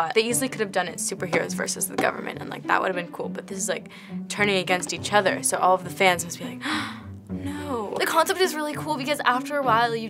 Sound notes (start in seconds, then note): 6.6 gasp